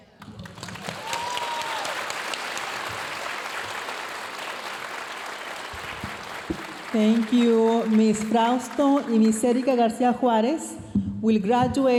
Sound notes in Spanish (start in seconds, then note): 0.2 aplausos y vítores de la audiencia; 6.9 hablando en inglés